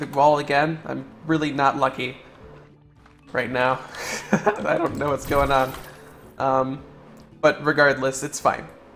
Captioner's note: laughter